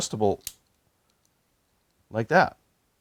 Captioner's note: bolt clicks